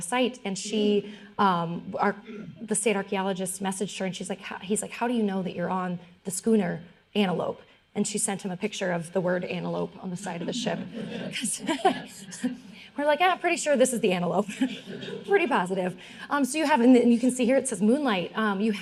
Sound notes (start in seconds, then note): 10.3 all laughing